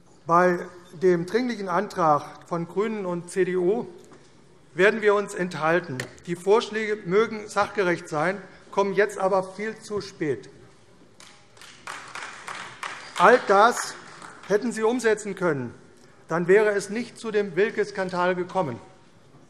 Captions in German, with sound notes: Bei dem Dringlichen Antrag der GRÜNEN und der CDU werden wir uns enthalten. Die Vorschläge mögen sachgerecht sein, kommen aber viel zu spät. [Beifall AfD] All das hätten Sie bereits umsetzen können. Dann wäre es nicht zu dem Wilke-Skandal gekommen.